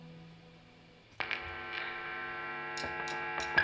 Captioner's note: drumsticks tap the beat; amplifiers buzz and hum; energetic rock music plays